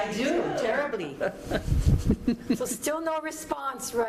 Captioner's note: chuckling